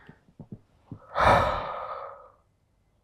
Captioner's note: exhales